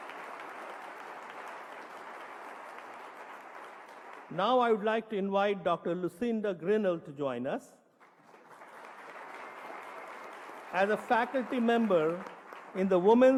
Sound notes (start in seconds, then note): 7.9 applause